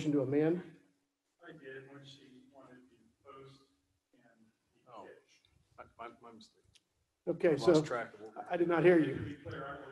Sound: off mic

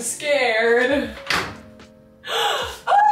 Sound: door clicks

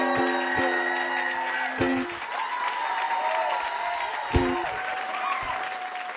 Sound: applause

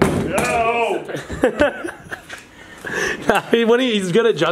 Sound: yells; hatchet clatters on floor

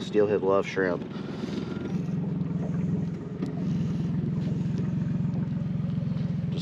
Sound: boat engine idling

